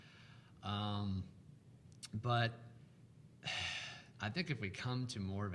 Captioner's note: sighs